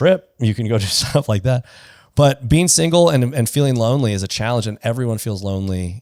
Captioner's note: laughs